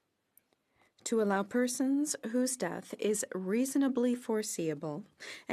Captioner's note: speaking French